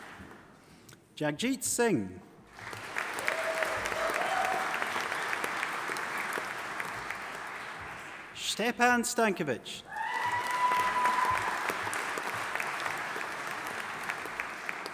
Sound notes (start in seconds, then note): 2.5 audience applauding; 9.9 audience applauding and cheering